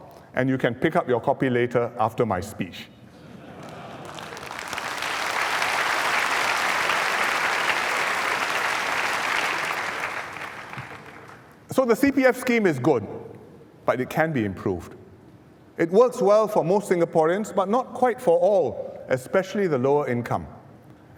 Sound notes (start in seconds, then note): 3.6 applause